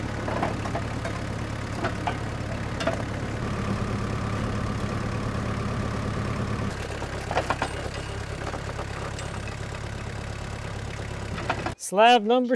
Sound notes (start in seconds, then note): 8.8 wood shifting